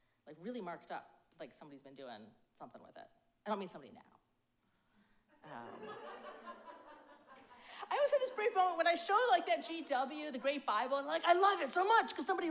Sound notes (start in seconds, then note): 5.4 audience laugh